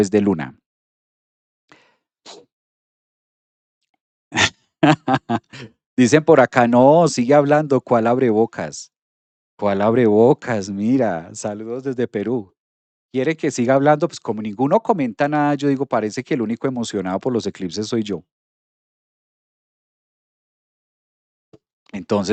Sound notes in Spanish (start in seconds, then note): 4.8 risas